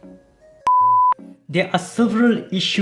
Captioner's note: beep